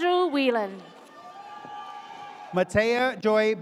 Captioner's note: audience cheers